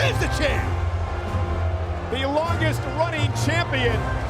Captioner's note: crowd booing